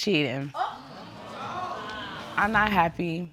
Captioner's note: audience exclaiming